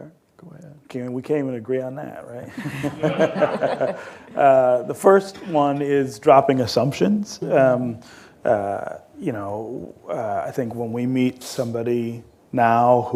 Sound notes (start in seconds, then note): 2.5 laughter